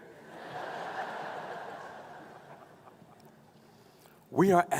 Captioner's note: laughing